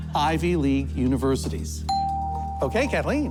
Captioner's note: bell dings